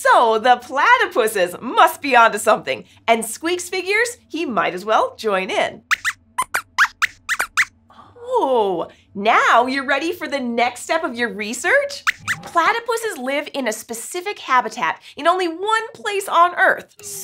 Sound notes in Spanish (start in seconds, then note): 6.3 Squeaks chirría